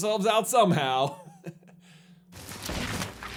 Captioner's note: chuckles